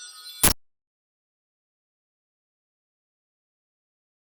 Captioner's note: static crackling